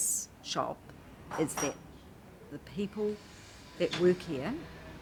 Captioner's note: metal clangs